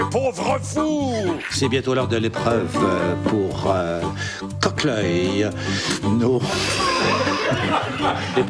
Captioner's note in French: rires